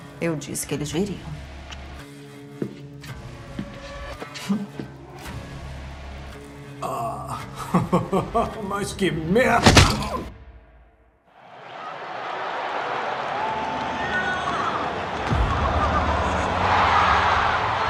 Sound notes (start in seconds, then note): 7.3 laughing; 11.3 crowd cheering